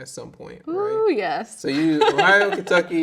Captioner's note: laughing